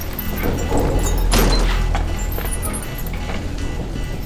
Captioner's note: alarm blaring; ax clanks; door thuds